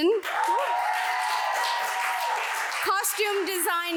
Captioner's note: audience applauds